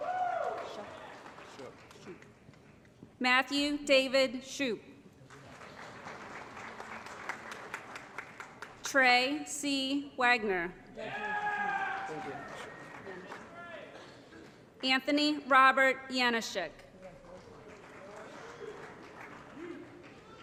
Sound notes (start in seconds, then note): 0.0 applause; 5.2 applause; 11.1 applause & Cheering; 17.1 applause